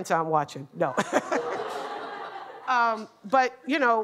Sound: laughter

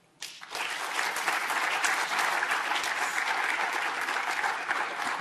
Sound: audience applauding

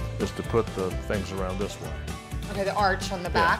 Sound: none

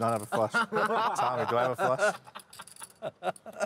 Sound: laughing

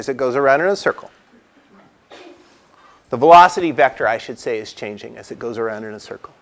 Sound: cough

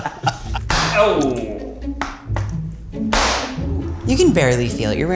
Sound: all laughing; exclaiming

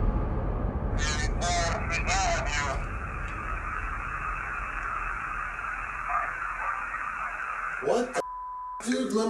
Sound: creepy voice

